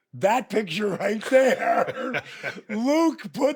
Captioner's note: both laughs